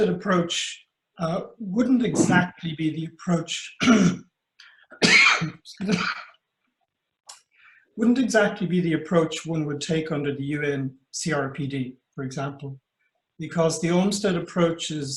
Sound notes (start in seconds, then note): 4.9 coughing